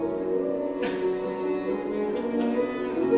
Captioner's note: laughter